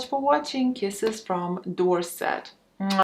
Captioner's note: smooches